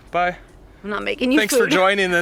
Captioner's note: giggles